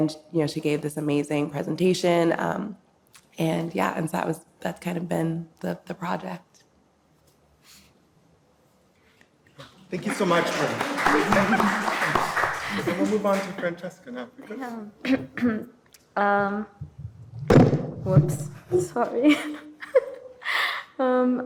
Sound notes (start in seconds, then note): 9.8 audience applauding; 16.8 microphone clunking; 20.5 laughing